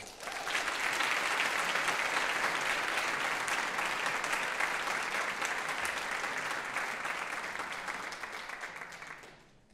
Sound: applause

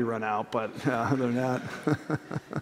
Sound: laughter

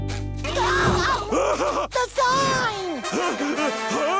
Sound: laughing

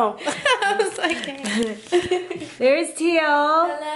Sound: laughter

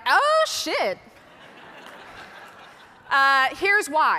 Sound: audience laughing

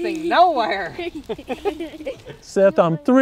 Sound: laughter

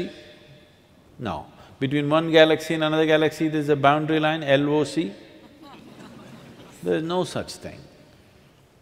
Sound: few laugh

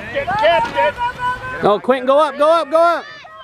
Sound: crowd cheering

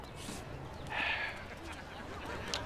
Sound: sighing

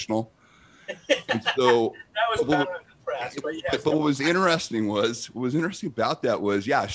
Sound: laughs

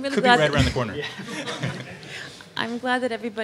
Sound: laughter

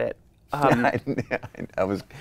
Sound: laughs

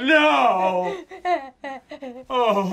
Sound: cries

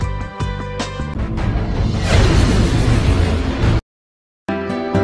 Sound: vwoosh; happy music

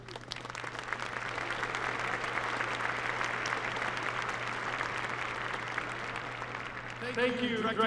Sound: applause

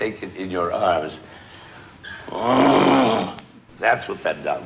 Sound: grunts

